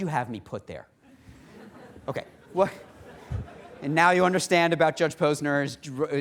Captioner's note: laughter